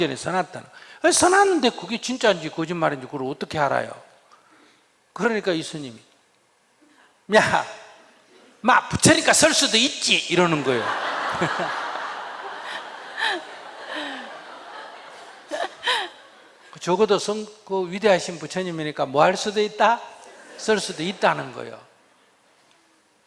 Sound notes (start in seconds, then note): 12.2 audience/ /Questioner Laughter